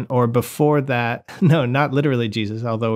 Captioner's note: laughter